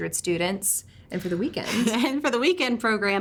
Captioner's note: laughs